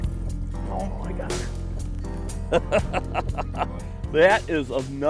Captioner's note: laughs